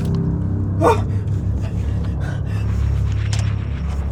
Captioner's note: gasping